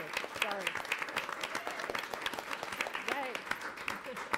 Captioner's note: audience applauding and cheering